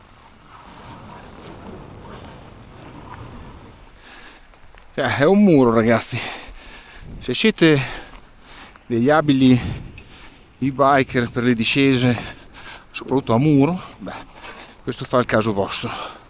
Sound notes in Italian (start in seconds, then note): 9.6 sbuffare